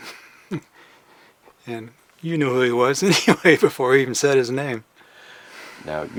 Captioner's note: chuckles